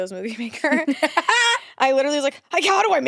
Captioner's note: laughs